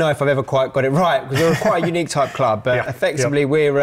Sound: scoffs

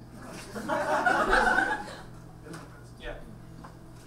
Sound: audience laughs

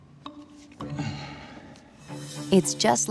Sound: sighs

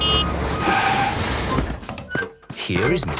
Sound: honking, engine revving

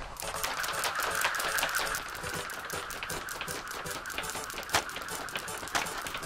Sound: jump ropes snapping rhythmically

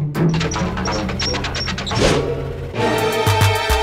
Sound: engine spluttering; dramatic music playing

